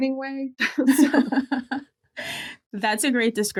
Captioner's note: laugh